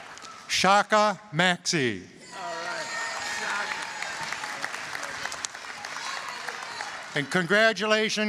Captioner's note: applause, cheering